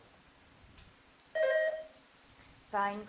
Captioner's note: bell dinging